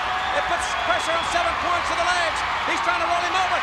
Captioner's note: crowd cheering